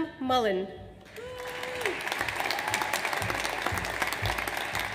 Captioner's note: audience applauds